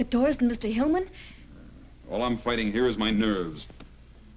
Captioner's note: scoffs